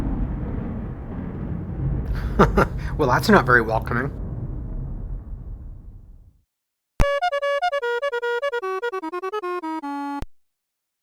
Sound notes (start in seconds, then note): 2.1 chuckles; 7.2 fanfare